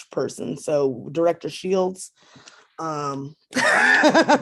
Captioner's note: laughs